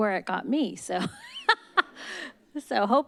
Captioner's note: laugh